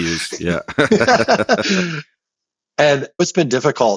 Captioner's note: both laughing